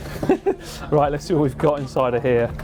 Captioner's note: laughs